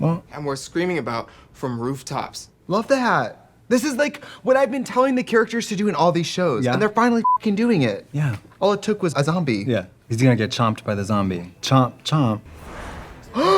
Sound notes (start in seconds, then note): 7.2 beeping